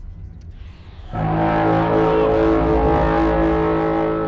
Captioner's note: awesome alien horn bellows or as those in theaters heard it BWAAAAOOOOOOOOOOUGH